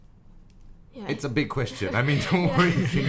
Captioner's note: all laugh